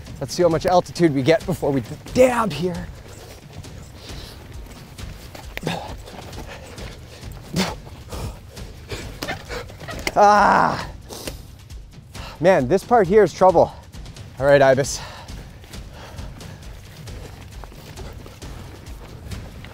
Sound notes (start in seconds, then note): 5.6 huffing and puffing; 10.3 groans; 15.8 dramatic music